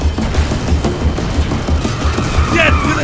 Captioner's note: explosion and shouting; screeching tires